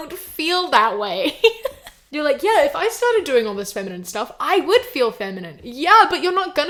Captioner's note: laughs